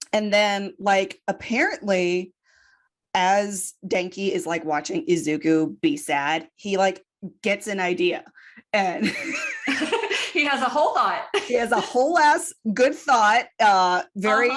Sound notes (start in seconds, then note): 9.0 laughter